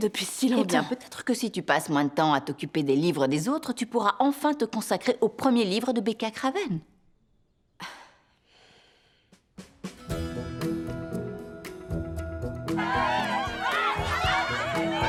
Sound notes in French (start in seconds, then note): 7.8 Becca soupire; 12.7 cris, acclamations